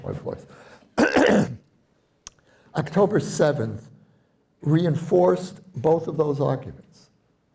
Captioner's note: clears throat